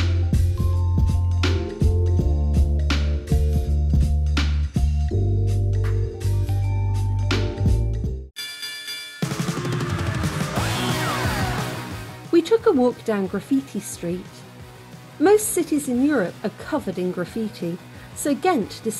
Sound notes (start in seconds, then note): 8.3 bell rings; 9.2 loud punk music